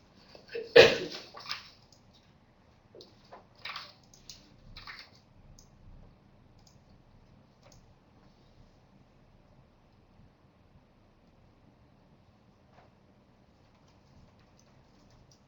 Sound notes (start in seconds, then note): 0.7 long pause